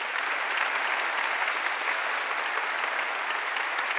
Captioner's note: audience applauding